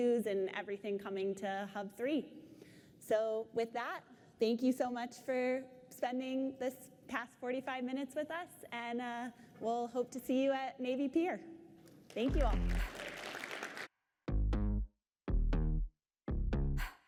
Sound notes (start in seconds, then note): 12.0 applause; 12.2 cheers